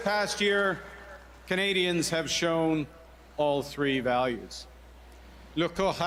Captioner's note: cheers and Applause